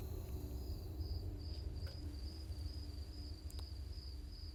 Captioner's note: crickets chirping